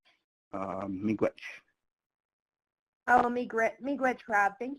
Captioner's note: speaking foreign language